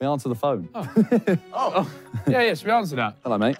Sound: group laughing

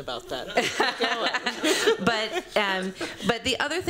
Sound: laughter

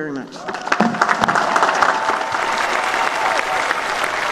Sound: applause and cheering

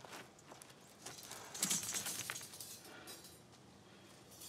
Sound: metallic rumble sound

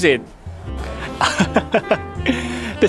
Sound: laughs

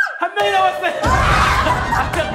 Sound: screaming

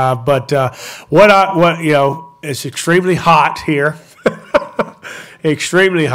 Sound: chuckles

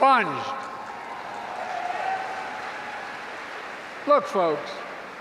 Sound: applause

